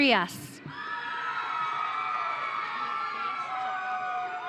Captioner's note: audience cheering